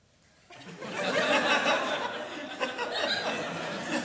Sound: laughter

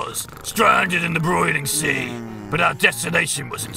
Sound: snoring adorably

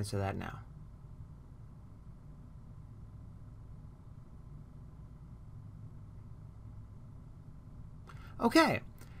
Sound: no sound

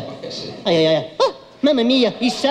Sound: yelps

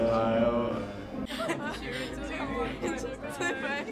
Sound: laughter

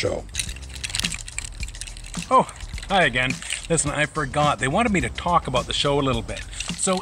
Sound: clinking

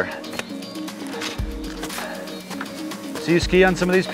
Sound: footsteps

